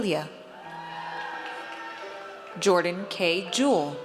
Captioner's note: audience cheers